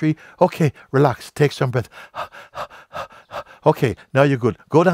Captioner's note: keuchend